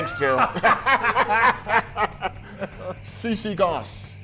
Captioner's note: commentators laughing